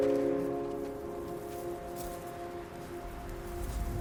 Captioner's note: branches rattle; ominous music